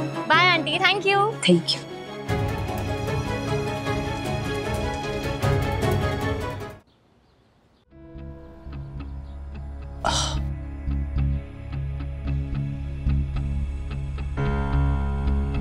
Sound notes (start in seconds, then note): 10.0 sighs